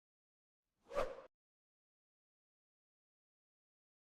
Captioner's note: whoosh